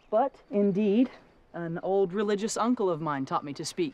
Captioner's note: none